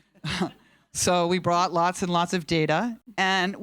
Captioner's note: chuckles